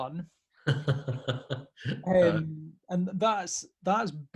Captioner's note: laughing